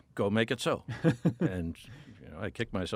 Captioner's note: laughing